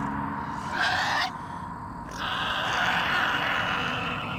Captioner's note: Eddy shrieking